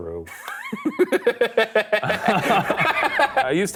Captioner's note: laughing